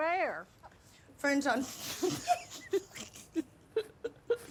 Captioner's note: laughs; mom laughing